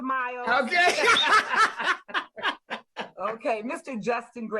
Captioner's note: laughing